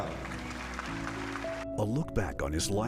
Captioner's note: crowd applauding